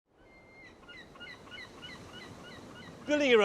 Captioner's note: seagulls squawk